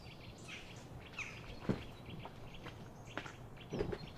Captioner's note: birds chirping